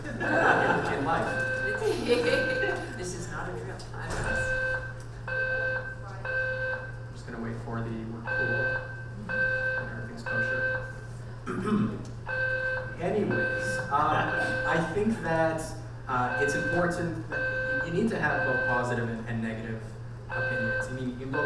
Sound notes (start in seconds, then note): 0.0 audience laughing; 5.2 alarm beeping; 12.2 alarm beeping